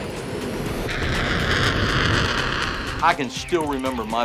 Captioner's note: aircraft engine roaring